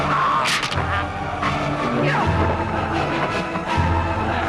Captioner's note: raider choking; neck snaps